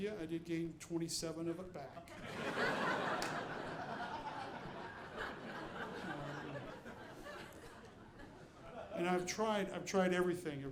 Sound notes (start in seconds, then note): 2.1 audience laughing